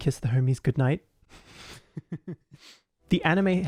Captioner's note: laughs